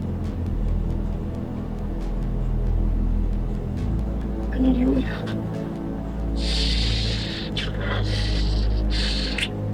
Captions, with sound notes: I need you, Lena (Kissing)